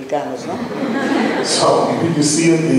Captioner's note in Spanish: laughs